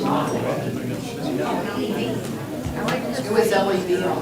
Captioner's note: crowd talking indistinctly